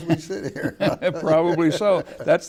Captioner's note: laughing